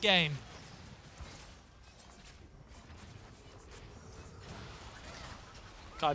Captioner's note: chaotic game sounds